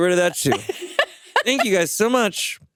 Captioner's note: chuckles